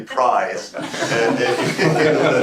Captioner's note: laughter